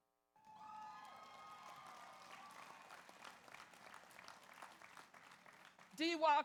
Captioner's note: audience cheers; audience applauds